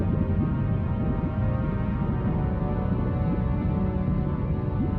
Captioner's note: water bubbling